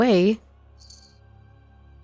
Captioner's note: bell chimes again as they get closer